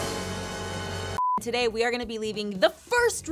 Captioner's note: suspenseful music; screen beeps